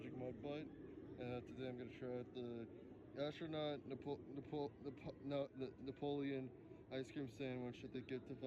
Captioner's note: stuttering